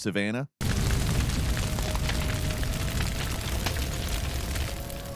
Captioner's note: fire blazing